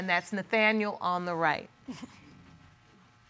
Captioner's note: chuckles